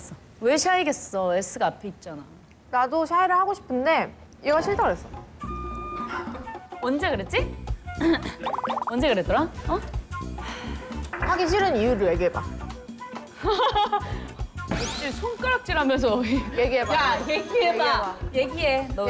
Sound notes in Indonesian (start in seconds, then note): 13.3 Ha. Ha. Ha